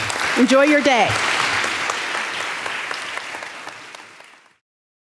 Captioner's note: audience applauding